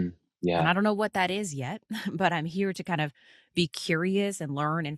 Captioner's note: chuckles